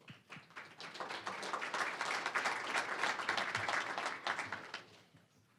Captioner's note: applause